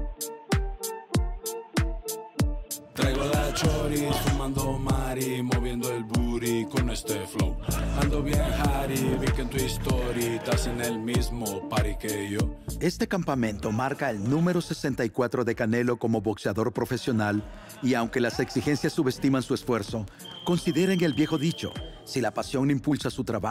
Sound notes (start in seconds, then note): 8.9 gruñe